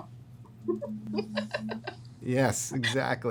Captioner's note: laughs